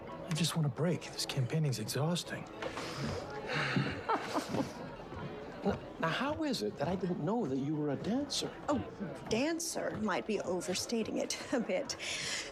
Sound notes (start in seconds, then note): 3.6 laughs